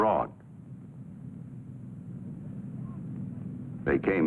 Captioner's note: rumbling from the street